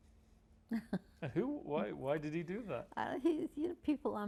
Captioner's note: laughing